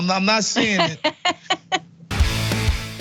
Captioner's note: laugh